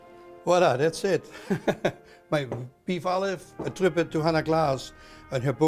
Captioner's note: laughs